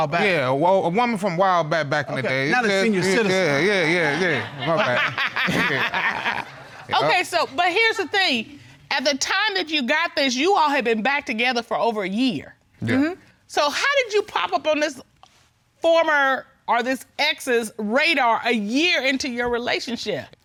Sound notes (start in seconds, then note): 3.0 laughs